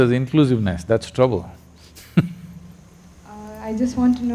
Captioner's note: laughs